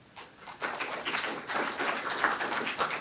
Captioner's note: applause